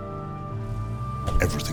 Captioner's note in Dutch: auto deur bonkt